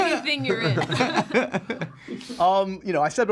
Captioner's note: laughter